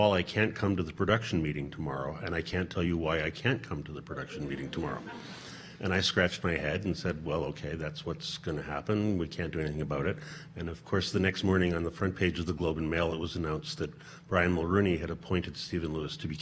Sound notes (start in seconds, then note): 5.7 audience laughing